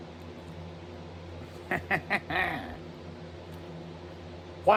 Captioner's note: laughs